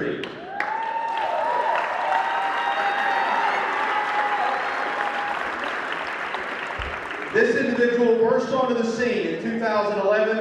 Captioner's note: cheering